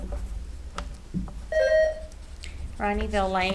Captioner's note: buzzer ringing